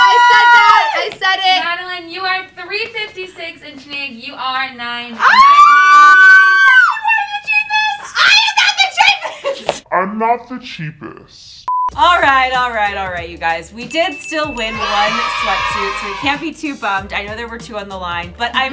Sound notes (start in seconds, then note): 0.0 ladies scream; 5.2 ladies scream; 9.0 laughs; 11.8 upbeat music plays